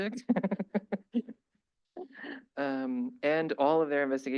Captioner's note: laughter